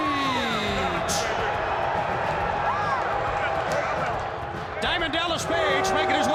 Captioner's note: crowd chatter